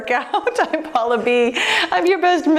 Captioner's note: laughs